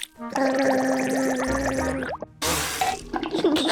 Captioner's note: gargles